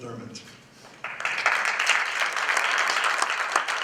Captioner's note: applause